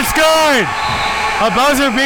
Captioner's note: audience applauding and cheering